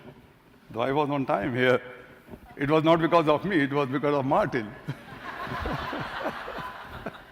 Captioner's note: laughter